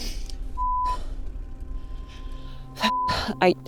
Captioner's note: beep; beep